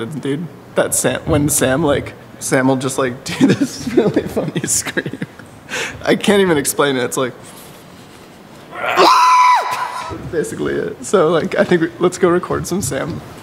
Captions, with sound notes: Dude, that- when Sam like, Sam will just like, do this really funny scream... (laughs) I can't even explain it. It's like... (suppressed scream) Basically it... So like, I think, let's go record some Sam.